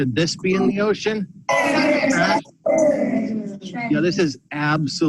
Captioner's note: children chattering